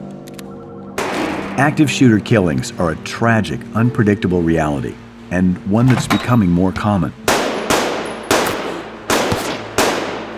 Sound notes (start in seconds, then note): 1.0 gunshot; 7.2 gunshots